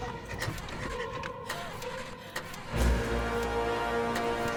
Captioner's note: engine puttering